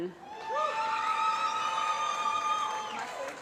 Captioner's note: applause